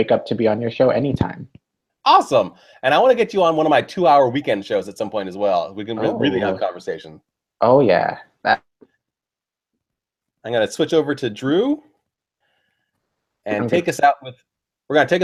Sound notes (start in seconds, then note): 8.7 silence